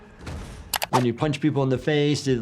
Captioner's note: intense music; keyboard clacking